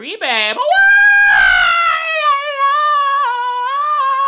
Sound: screams

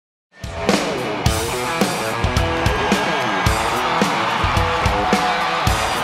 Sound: upbeat rock music; crowd cheering

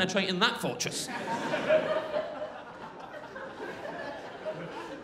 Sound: crowd laughing

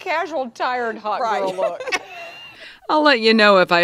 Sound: women laughing

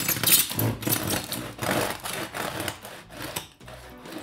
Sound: knife scrunching

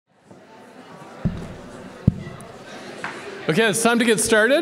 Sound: audience conversing

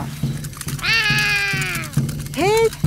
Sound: roaring

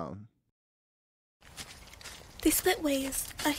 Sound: footsteps

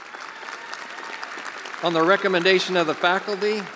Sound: attendees applauding

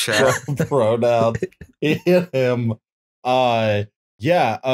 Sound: laughter

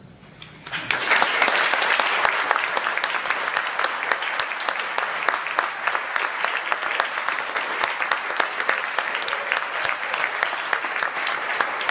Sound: applause

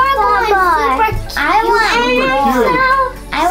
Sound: girls talking over each other in background

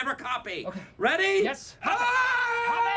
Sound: screams

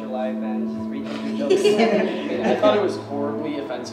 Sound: class laughs

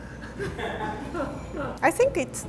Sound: laughter

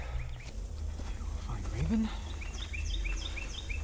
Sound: quietly

